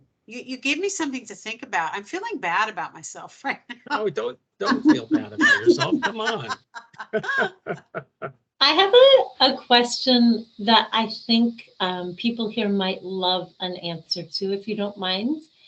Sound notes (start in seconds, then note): 4.6 laughing